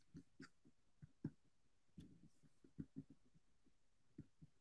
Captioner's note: mouse clicking continues